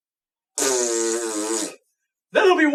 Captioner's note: blows raspberry